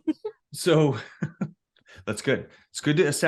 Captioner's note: laughs